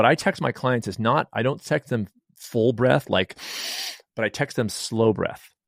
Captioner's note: inhale sharply